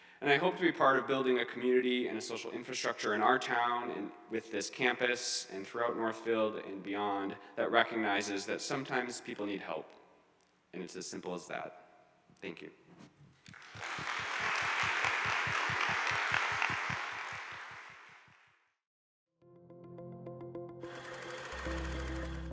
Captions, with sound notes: And I hope to be part of building a community and a social infrastructure in our town and with this campus and throughout Northfield and beyond that recognizes that sometimes people need help. And it's as simple as that. Thank you. (audience applauds) (bright music)